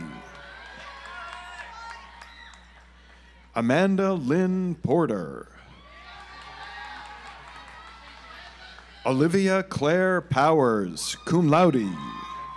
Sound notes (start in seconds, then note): 0.0 audience applauds; 5.9 audience applauds